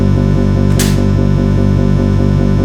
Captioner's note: spits